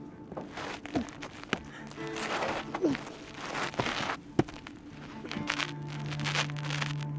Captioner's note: feet scraping; man grunting